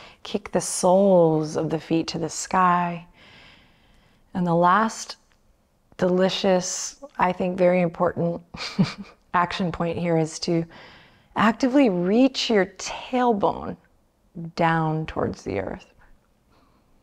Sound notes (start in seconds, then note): 8.5 chuckles